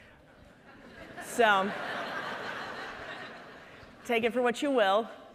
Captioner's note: audience laughing